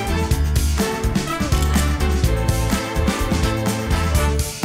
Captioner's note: camera clicks